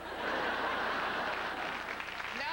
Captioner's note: laughter